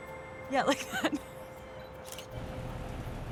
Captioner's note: laughing